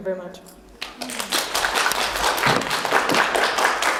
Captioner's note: people applauding